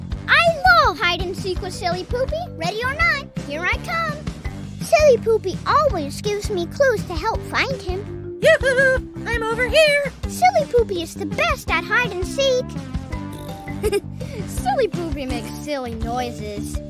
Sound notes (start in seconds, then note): 13.1 blowing raspberry; 13.3 giggling